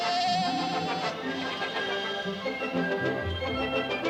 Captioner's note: goat bleating